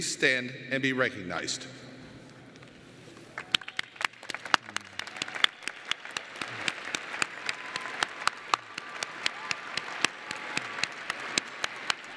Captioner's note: applause